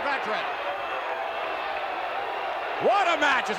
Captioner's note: audience cheering